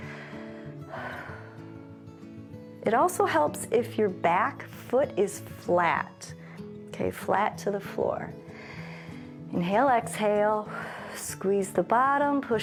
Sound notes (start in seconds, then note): 0.0 inhales and exhales; 8.5 inhales; 8.5 exhales